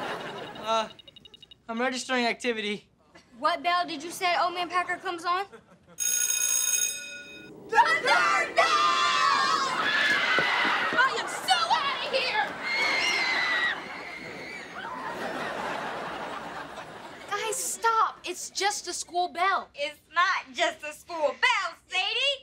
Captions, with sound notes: Uh... I'm registering activity. What bell did you say Old Man Packer comes on? [bell ringing] [screaming together] The third bell! I am so out of here! Guys, stop, it's just a school bell. It's not just a school bell, Sadie.